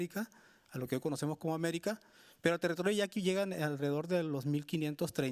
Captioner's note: speaking Spanish continues